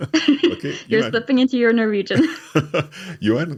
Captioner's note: laughing